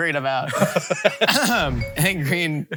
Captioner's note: both laughing